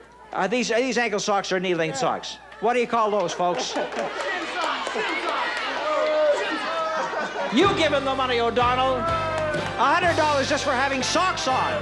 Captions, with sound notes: Are these ankle socks or knee-length socks? What do you call those, folks? [audience shouts] You give him the money, O'Donnell. [theme music playing] $100 just for having socks on!